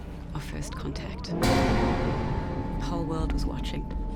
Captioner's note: metal thuds